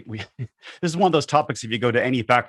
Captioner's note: laughs